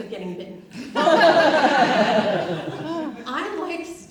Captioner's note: audience laughs